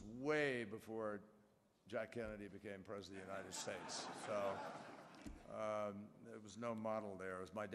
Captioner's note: laughter